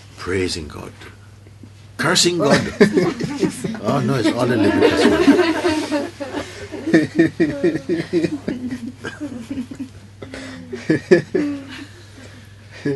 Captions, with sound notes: Praising God. Cursing God! Oh, no, it's all the limitless One. [laughter]